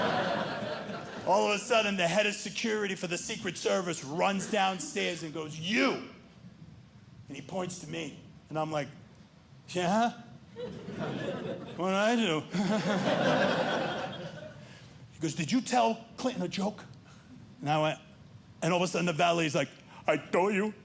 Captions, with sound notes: All of a sudden the head of security for the secret service runs downstairs and goes, you! And he points to me, and I'm like, yeah? What did I do? [chuckles] He goes, did you tell Clinton a joke? And I went-- And all of a sudden the valet is like, I told you.